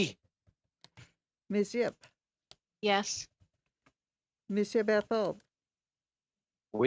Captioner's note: speaking FRENCH